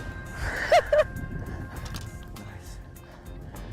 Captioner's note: gleeful laughter